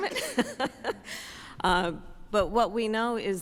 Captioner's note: laughs